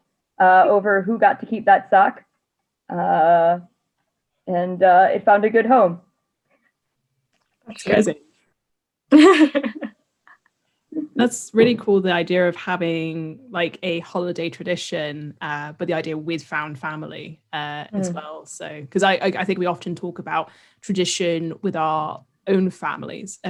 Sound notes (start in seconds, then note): 9.1 laughs